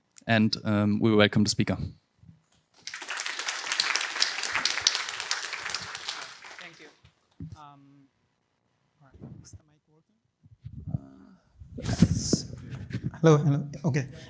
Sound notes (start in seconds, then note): 2.8 applause